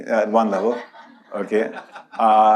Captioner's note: audience laughs